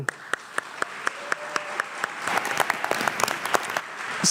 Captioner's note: everyone applauds